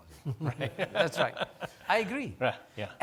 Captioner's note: laughing